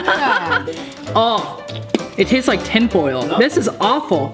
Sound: spits

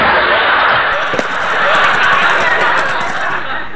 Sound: general crash noises; laughing

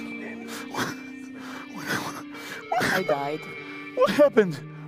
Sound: crying

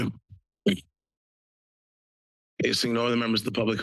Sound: pause

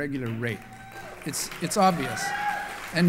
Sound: applause

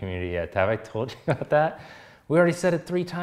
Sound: chuckling

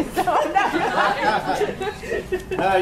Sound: laughter

